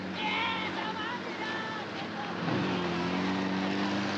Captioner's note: shouting Japanese